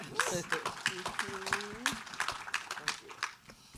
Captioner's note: audience applauds